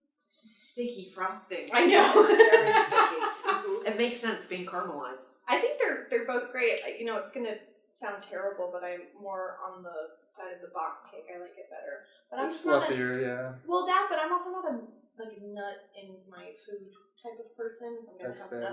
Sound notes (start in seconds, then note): 1.8 laughter; 1.8 continued laughter